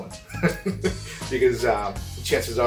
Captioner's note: laughing